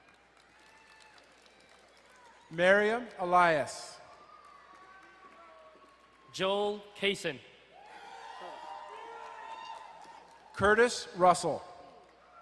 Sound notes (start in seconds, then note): 0.0 crowd cheering and applauding; 4.0 distant cheering; 7.7 crowd cheering and applauding